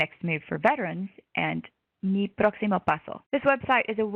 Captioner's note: spanish